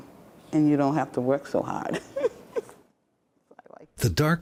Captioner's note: laughs